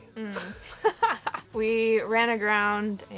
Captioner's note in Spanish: riendo